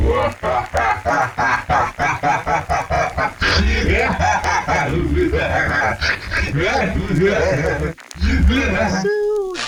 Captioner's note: evil Laugh